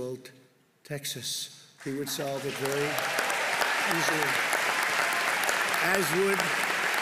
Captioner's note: applause